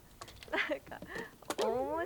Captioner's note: laughs